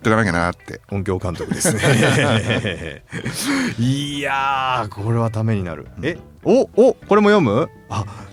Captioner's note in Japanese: 笑い